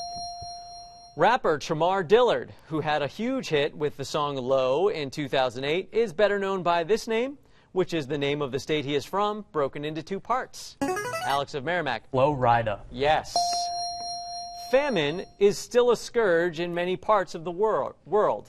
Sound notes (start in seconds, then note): 10.2 buzzer plays; 13.4 ding